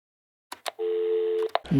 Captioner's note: dial tone; click